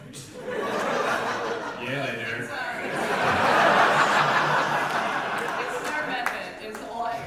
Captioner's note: audience laughter